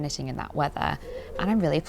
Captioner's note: pigeon noises